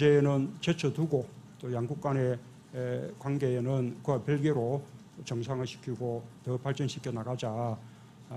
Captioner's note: Korean